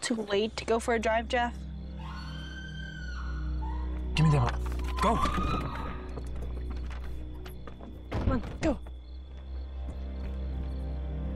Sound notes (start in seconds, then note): 2.0 Brenda screaming